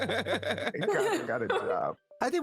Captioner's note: laughing